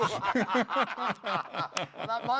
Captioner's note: laughter